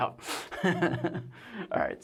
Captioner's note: laughs